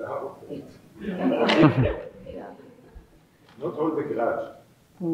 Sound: all laughing

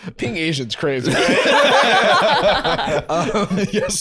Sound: all laughing

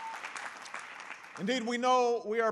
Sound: applause

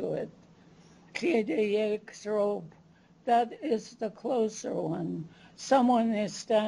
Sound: non-english

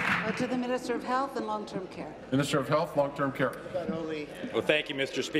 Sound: applause

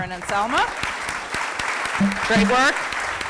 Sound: applause

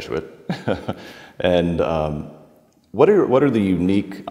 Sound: chuckling

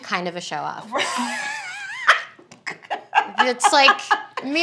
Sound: laughing

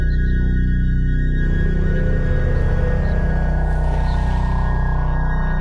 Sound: passing truck hums

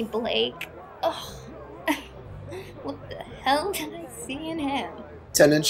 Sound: laughs

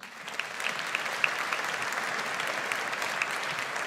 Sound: audience applauds

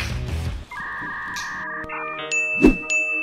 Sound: rock music playing; ding

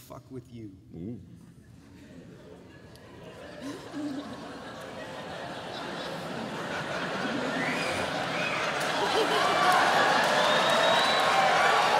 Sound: cheering

